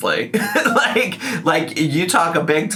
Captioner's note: laughs